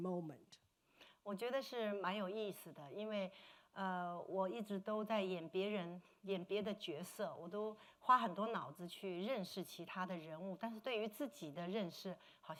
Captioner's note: speaking Mandarin